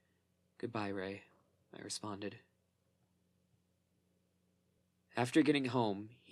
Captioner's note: short pause